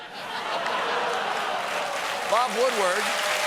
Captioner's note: applause